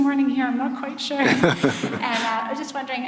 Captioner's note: laughs